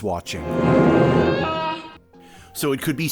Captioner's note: alarmed honk; dramatic drumming